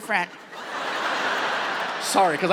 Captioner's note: audience laughs